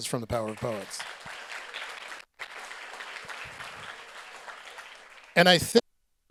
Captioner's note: audience applauds